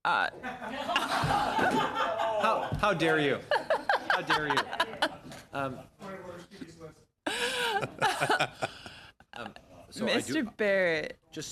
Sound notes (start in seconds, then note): 3.9 laughter